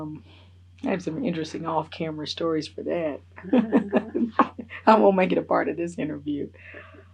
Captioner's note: laughs